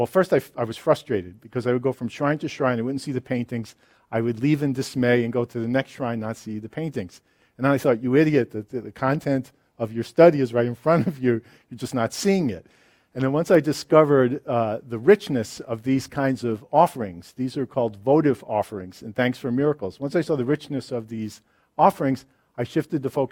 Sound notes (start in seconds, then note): 10.9 laughs